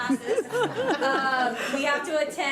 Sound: audience laughs

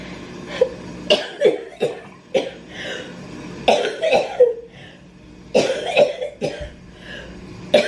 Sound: coughing continues

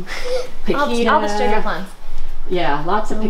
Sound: laughing

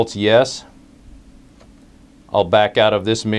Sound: pause

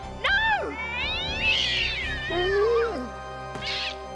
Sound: cat screaming

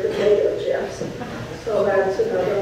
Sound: audience laughs

